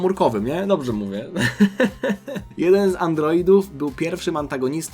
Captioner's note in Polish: śmiech